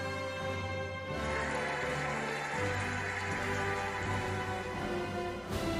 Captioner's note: cheering and applauding